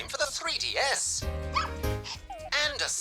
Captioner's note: barks